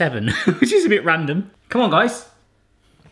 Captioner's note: laughs